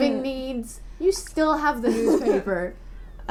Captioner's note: laughter